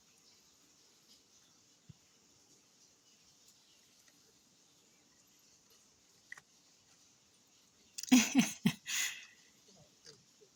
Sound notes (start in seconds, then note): 8.0 laughs